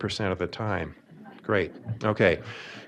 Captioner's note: audience laughing